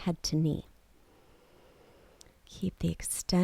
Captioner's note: inhales